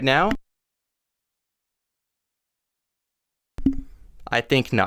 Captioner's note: muted audio